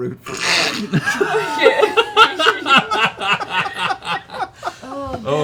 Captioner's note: laughter